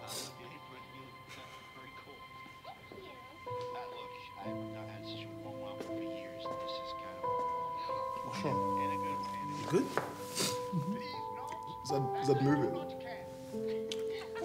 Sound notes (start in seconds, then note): 0.1 sniffs; 2.0 characters chattering indistinctly; 9.6 sniffs